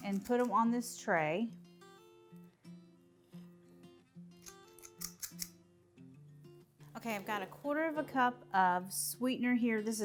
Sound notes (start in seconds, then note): 4.5 scoop rattles